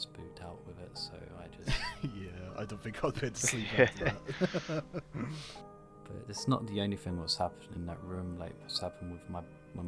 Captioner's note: laughs